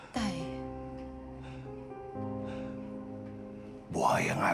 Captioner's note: ernesto breathing heavily